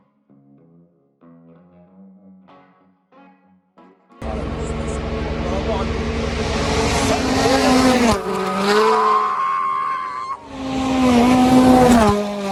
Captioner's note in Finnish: moottoripyörän ääniä